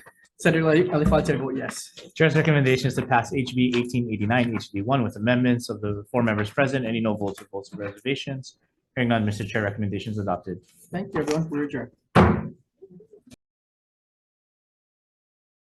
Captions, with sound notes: Senator Elefante, I vote yes. - Chair's recommendation is to pass HB 1889 HD1 with amendments. Of the four members present, any no votes or votes of reservations? Hearing none, Mr. Chair, recommendation is adopted. - Thank you, everyone, we're adjourned. (gavel thumping)